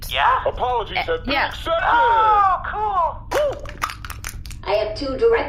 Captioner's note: shouting